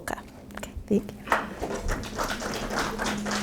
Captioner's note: applause